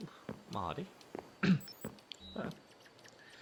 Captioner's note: clears throat